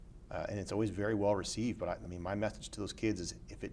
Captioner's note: none